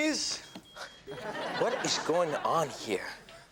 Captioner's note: audience laughs